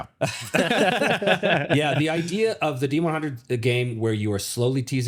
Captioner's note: both laughing